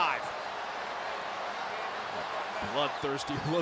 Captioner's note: crowd cheering